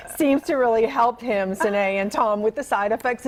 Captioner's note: laughter